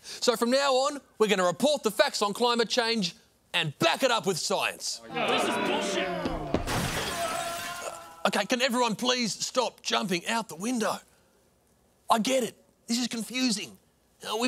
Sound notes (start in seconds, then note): 5.4 grumbling, moaning; 5.9 glass shatters, man screams